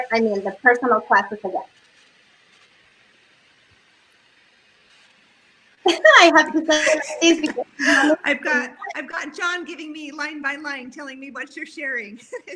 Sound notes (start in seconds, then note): 5.8 laughs